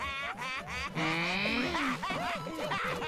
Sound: SMG4 is still laughing

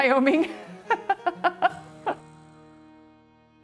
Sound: laughing

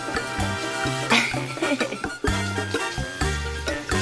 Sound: laughter

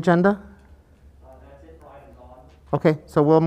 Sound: speaking off mic

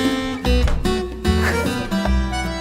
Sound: laughter

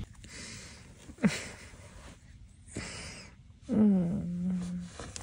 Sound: laughing

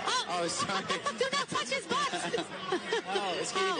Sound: laughs

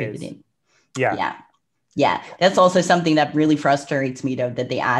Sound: clicks tongue

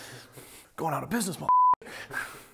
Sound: beep

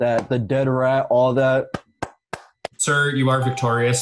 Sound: claps

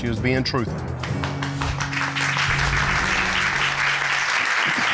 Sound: audience applauding

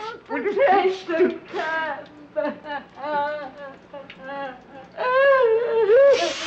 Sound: crying

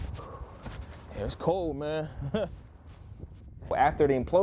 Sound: laughs

